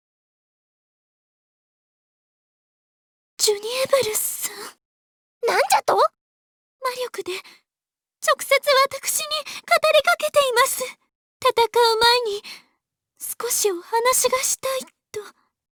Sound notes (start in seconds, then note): 0.2 silence